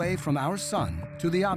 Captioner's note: none